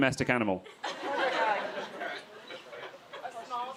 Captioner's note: crowd laughing